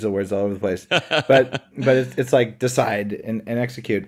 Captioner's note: laughs